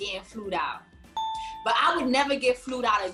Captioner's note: bell chiming